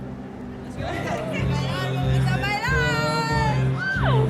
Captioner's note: speaking spanish